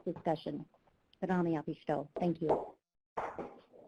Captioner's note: speaking Native language